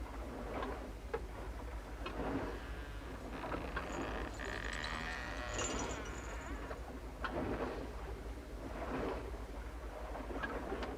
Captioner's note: creaking ship timbers